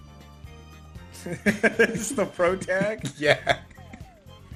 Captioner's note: laughs